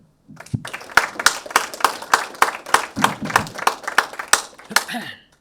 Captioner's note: attendees applauding